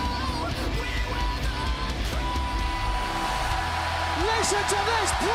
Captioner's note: crowd cheering